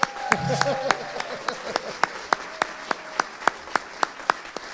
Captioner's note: audience applauding